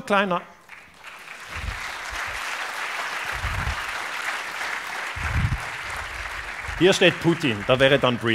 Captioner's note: applause